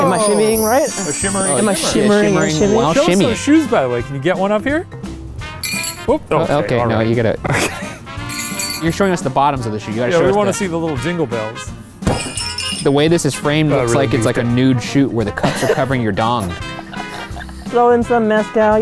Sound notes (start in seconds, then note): 1.6 mumbling; 5.6 shoe jingles; 7.4 laughs; 16.3 laughing